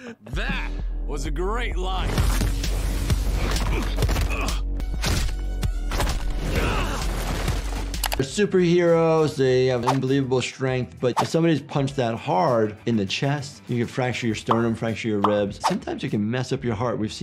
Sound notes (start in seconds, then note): 0.0 laughs; 2.0 blows thudding